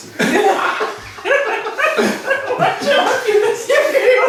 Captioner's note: cheerful laughing